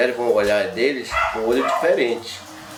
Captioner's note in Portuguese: latidos